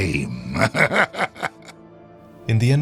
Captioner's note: laughs